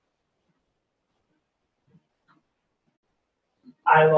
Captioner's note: pause